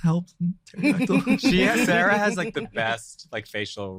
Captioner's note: group laughing